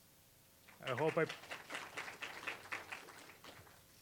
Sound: applause

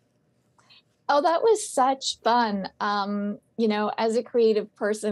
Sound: on phone

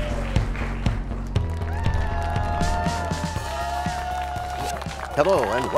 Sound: cheers and applause

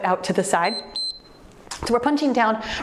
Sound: timer beeps

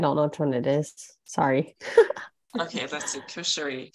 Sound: chuckling

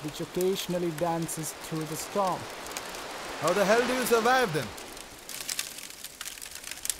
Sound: none

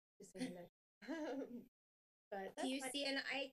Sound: laughing

